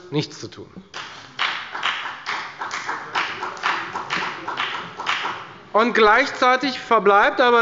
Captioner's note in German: Beifall bei der FDP